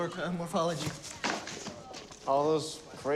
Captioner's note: books clatter